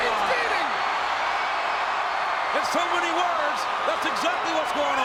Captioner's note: applause